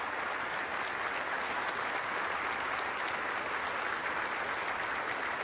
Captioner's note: applause